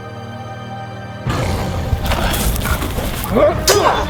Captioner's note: orc growls; grunting; swords clanging